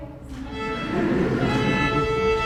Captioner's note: lively violin music; audience laughing